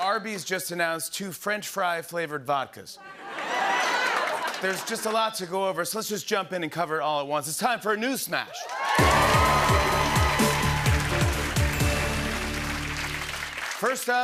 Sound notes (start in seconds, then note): 3.0 laughter; 8.5 cheers and applause